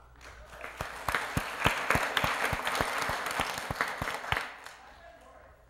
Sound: applause

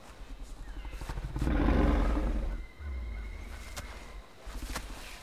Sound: witch growling

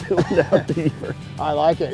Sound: laughs

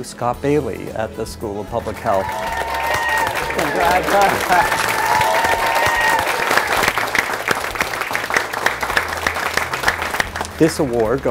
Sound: applause

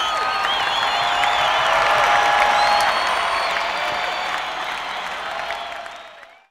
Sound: crowd cheers and applauds continues

